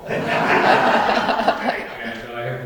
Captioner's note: laughter